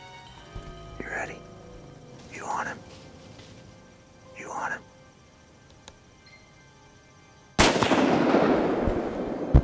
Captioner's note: whispering